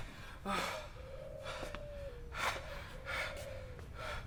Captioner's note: heavy breathing